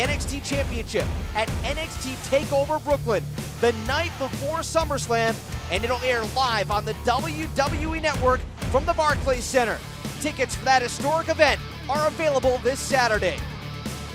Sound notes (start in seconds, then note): none